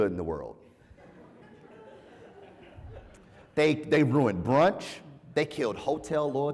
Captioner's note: laugh